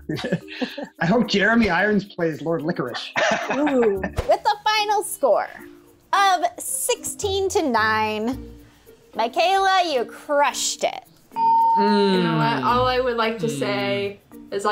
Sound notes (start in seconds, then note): 0.4 laughs; 11.3 bell rings